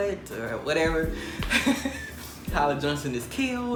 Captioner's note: man laughing